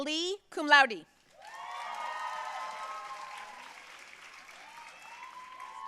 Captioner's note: audience cheering and applauding